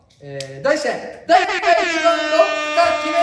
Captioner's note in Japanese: エアホーン